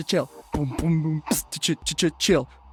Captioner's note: beatboxing